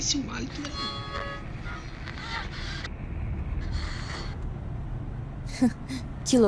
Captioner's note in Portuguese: rádio fora se sintonia